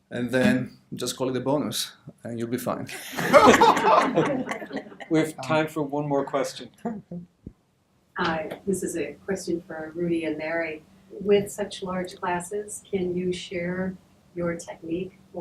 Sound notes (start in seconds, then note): 2.9 laughter